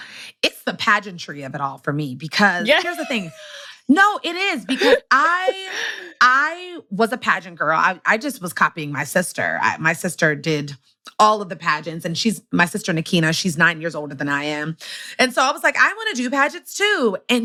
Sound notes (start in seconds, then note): 2.6 laughs